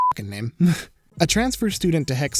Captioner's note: snickers